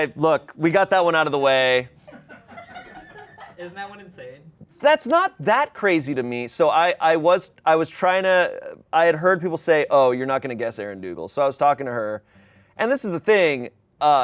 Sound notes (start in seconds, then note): 2.0 people laugh